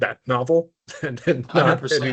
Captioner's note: chuckling